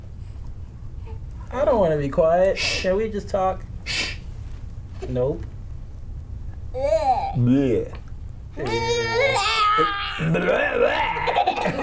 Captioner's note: playful